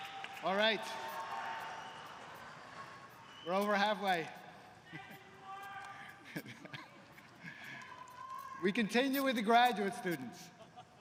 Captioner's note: cheers & applause